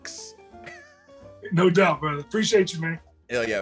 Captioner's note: laugh